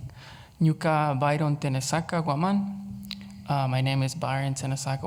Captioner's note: speaks Quechua